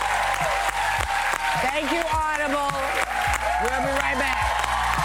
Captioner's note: applause